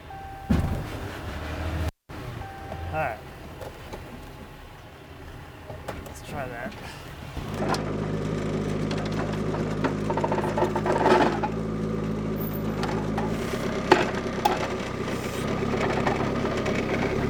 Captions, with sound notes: (truck dings) All right. Let's try that. (skid-steer whirring) (wood clacking) (skid-steer whirring)